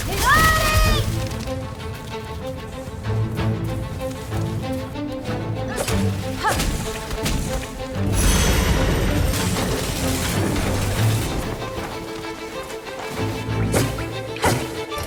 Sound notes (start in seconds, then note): 0.1 screams; 4.8 intense orchestral music playing; 7.6 grunting